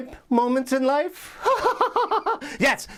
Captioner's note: laughs